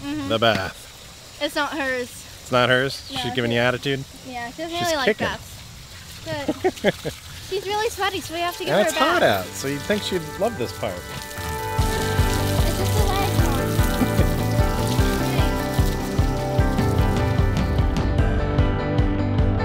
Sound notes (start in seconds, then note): 6.3 laughing; 12.1 water spraying; 12.9 upbeat music